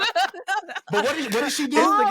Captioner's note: laughing